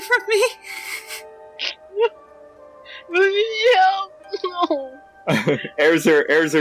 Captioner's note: sniffling